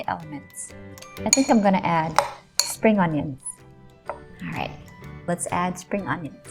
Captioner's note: spoon clanking